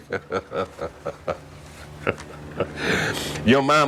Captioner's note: laughter